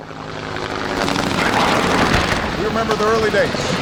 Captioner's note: helicopter whirring; gunshots blasting